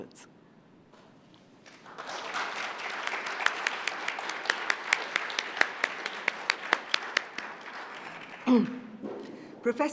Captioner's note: applause